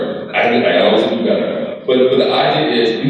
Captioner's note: crowd laughs